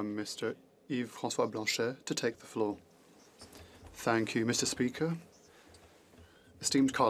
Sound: speaking French

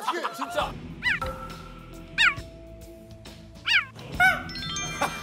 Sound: very adorable cheetah sound

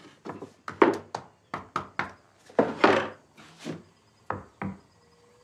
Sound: knocking continues

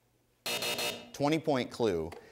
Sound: buzzing

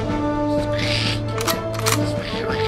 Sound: in Clay Speech; guns cocking; in Clay Speech

